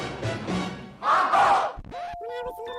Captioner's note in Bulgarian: Тълпа